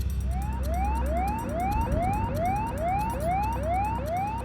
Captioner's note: siren wails